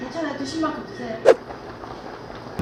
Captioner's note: sizzle Sizzle